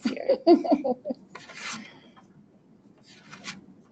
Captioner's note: laughing